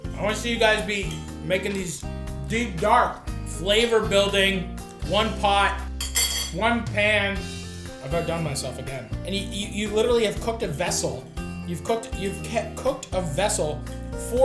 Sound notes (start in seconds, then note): 6.0 utensils clanking